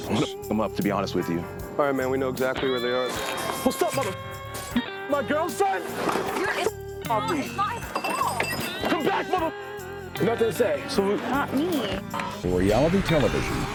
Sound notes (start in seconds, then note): 7.9 glass shattering